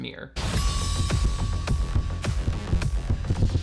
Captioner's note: bell rings; slow dance music; heart beats